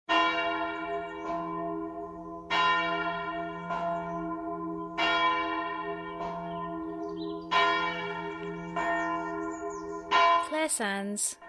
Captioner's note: church bells